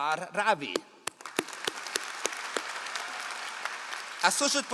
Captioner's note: all applauding